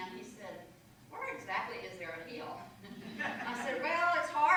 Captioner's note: laughter